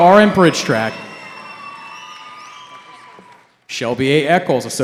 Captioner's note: cheering